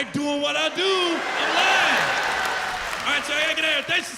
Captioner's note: laughter